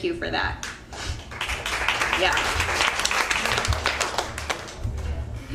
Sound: audience applauding

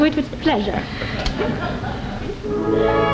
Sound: laughter

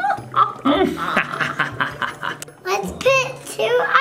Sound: evil laughing

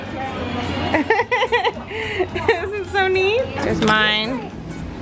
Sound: laughing

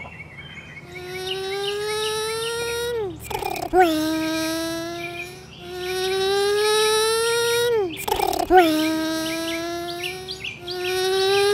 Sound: 4-stroke engine

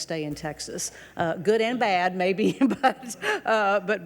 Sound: people laugh lightly

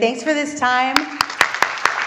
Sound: applause

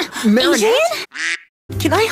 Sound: quack

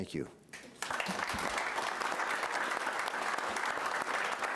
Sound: applause

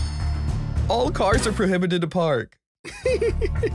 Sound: laughs

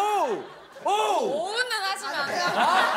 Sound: exclaiming

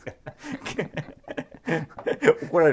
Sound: laughing

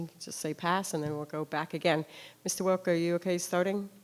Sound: none

